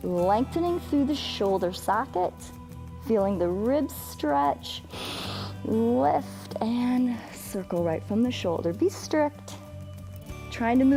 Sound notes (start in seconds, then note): 4.9 inhales